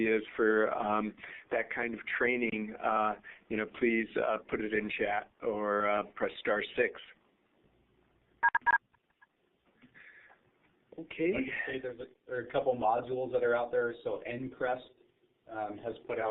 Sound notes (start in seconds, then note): 8.4 beep beep